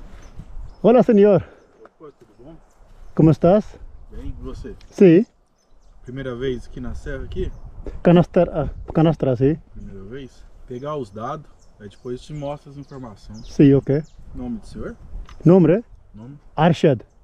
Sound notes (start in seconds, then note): 3.2 speaking in Portuguese